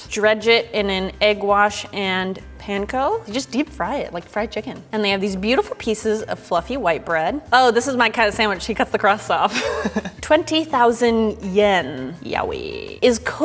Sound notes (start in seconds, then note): 9.5 laughing